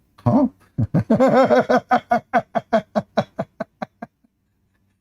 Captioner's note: Ketawa